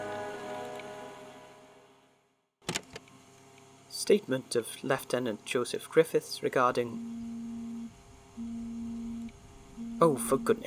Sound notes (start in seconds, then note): 2.5 tape recorder clicks on, static; 6.5 rhys’ phone buzzes